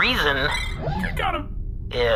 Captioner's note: electric noise